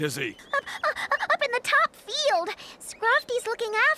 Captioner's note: breathless